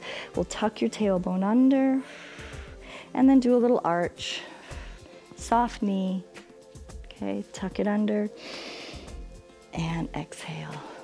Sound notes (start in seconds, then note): 2.0 exhales; 8.3 inhales